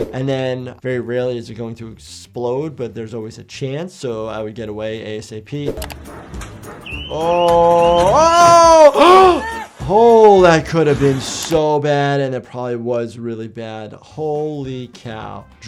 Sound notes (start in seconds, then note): 8.9 gasps